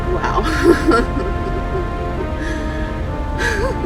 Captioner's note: laughing